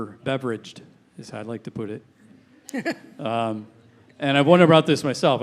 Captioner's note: chuckling